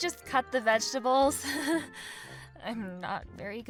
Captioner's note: amanda giggles nervously